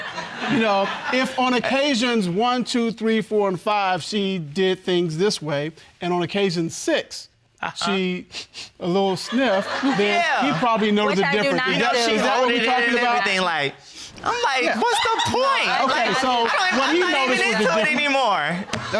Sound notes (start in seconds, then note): 8.3 sniffs